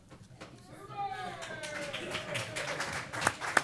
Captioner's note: applause